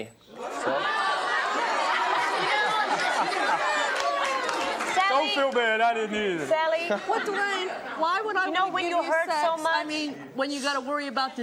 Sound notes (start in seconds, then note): 0.4 audience outrage; 8.2 laughs